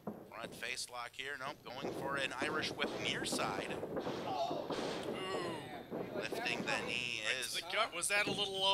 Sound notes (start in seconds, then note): 5.0 groaning